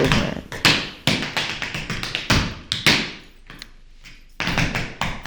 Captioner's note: tapping